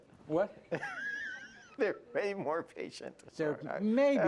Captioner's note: laughs